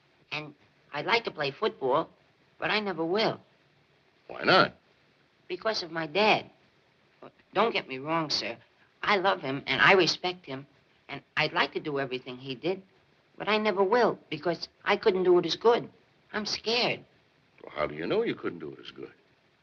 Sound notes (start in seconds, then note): none